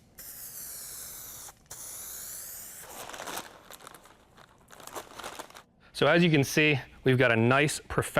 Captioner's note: hissing sound of spray paint